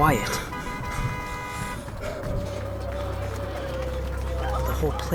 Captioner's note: running footsteps and light breathing amid traffic horns